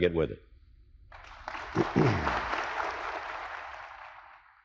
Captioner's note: crowd applauds